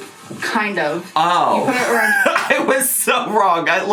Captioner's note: laughing